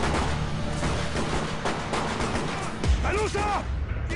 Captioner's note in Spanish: Disparos